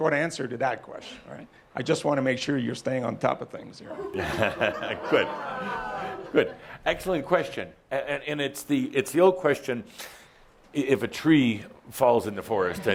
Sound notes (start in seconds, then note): 3.9 chuckling